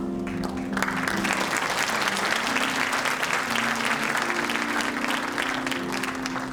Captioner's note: audience applauding and cheering